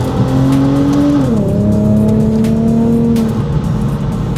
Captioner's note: engine revving